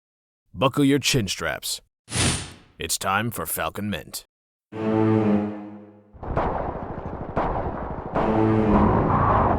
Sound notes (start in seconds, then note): 2.1 whoosh; 4.8 suspenseful music